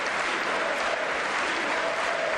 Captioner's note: applause